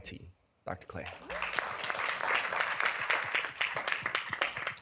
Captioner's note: applause